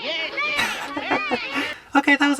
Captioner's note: chuckles